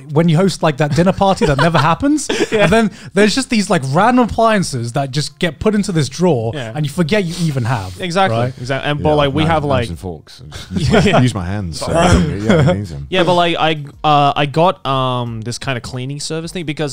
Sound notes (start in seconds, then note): 10.4 all laughing